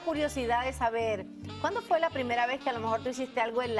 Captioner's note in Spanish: hablan al unísono